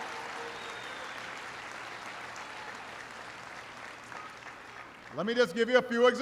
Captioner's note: applause